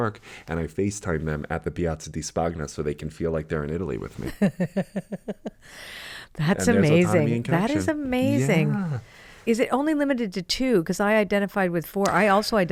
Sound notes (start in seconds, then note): 4.3 laughs